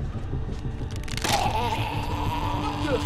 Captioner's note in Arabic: خشخشة العظام